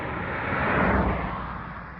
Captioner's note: car races